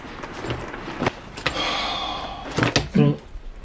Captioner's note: exhales deeply